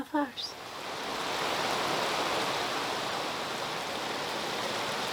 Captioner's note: rain drizzling